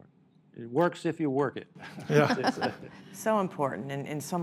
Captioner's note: laughs